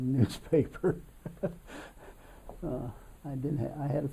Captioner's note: laughs